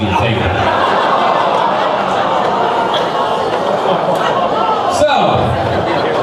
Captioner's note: crowd laughing; crowd ooo'ing